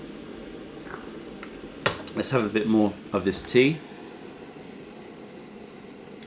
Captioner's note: sips tea